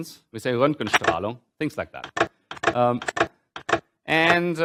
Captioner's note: german